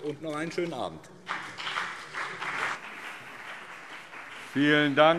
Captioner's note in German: Beifall BÜNDNIS 90/DIE GRÜNEN und CDU